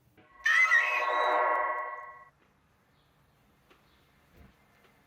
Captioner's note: screaming